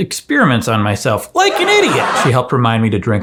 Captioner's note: audience laughing